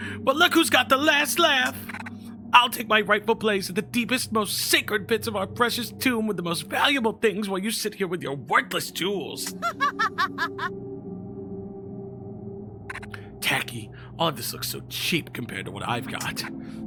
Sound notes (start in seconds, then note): 9.4 Gabriella laughs